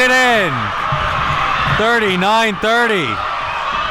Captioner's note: crowd cheers